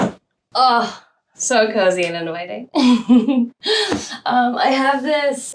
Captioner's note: chuckles